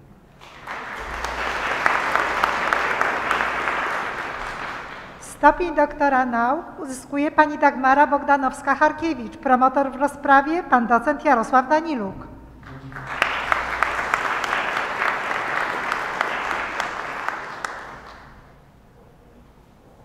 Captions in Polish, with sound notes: [oklaski] Stopień doktora nauk uzyskuje Pani Dagmara Bogdanowska-Charkiewicz. Promotor w rozprawie Pan docent Jarosław Daniluk. [oklaski]